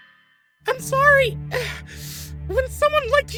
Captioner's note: straining